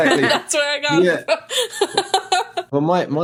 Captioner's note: laughs